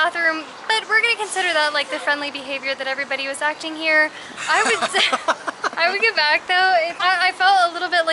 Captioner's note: laughter